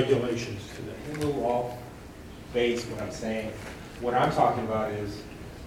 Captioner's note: speaking faintly